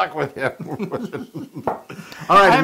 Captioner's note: laugh